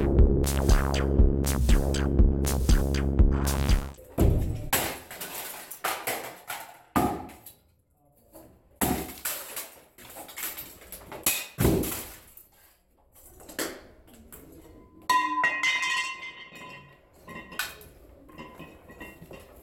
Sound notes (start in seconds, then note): 3.4 whacking & clattering; 10.9 thunk; 15.1 falling of steel baseball bat